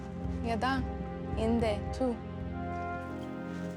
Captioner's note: speaking native language